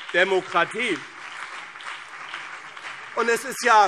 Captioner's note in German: Beifall BÜNDNIS 90/DIE GRÜNEN und CDU